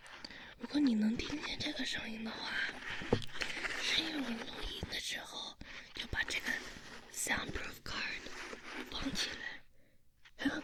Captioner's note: foam sound